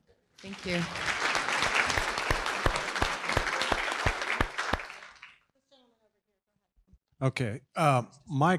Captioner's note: applause